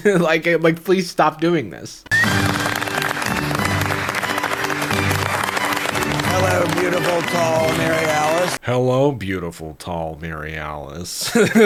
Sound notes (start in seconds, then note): 2.1 applauding